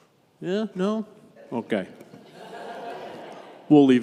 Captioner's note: congregation laughs